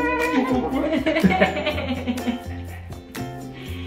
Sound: laughing

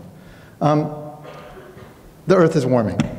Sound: coughing

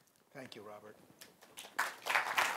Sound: applause

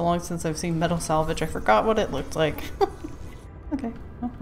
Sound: laughs

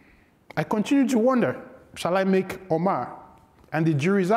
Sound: speaks foreign language

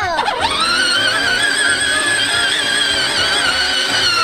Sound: toy car moving

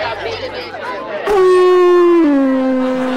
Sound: horn blowing

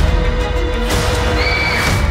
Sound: screaming

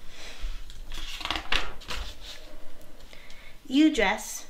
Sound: page flips

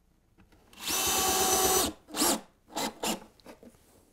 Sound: screw gun

